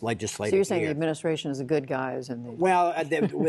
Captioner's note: laughter